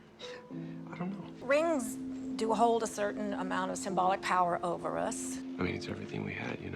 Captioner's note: voiceover